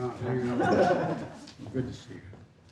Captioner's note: laughter